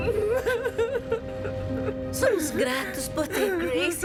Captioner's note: crying